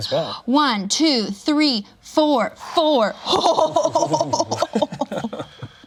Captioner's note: laughs